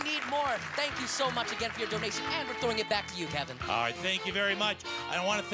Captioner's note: cheering and Applause